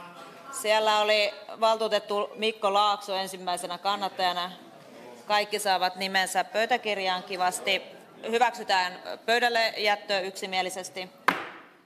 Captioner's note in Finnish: nuijan kopautus